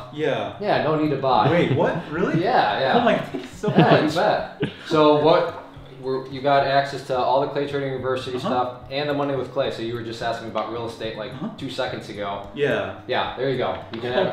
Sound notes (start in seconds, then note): 1.4 chuckling